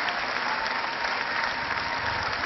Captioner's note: cheering